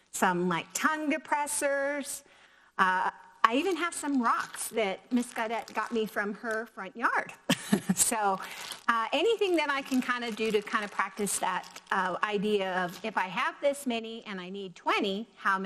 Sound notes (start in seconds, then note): 7.3 laughs